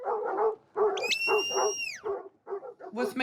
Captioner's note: whistles